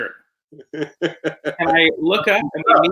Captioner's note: chuckles